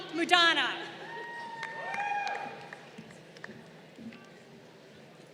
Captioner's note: crowd cheering